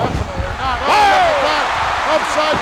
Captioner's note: audience cheering; everyone exults